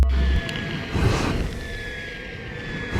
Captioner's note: wind and fireworks sound